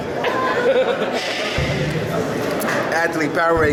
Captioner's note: lounge area chatter